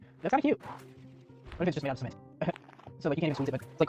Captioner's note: laughs